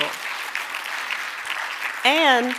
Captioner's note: audience applauding